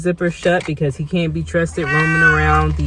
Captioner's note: meow